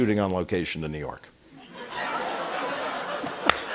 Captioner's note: laughter